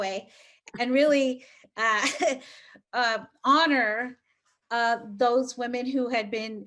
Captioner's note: chuckles